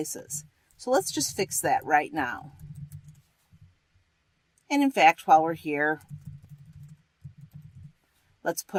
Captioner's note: typing